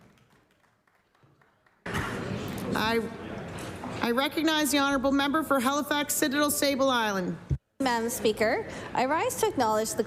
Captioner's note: applause